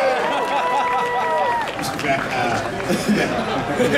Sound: audience cheering

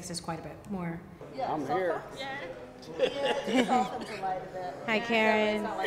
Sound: coughs

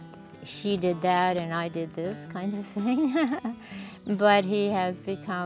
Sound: laughs

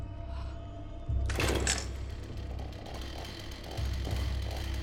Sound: whispers; chainsaw motor starting

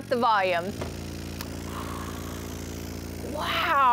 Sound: speakers rumbling

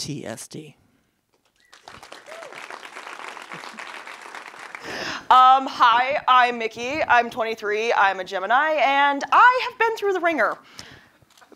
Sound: applause

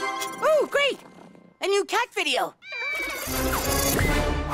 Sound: cat meows; tablet whirring

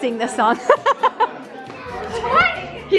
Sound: laughs

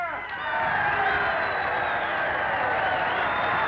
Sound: crowd cheers

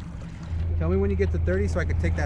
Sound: boat engine running

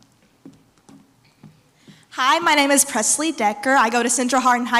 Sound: none

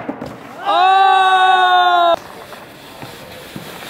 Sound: everyone cheers

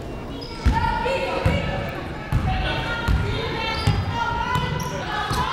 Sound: whistle tweeting; people shouting in the crowd

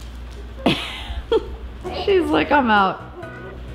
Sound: laughing

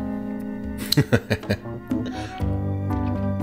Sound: laughter

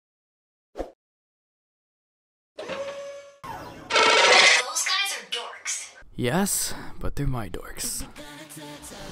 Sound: vex noises

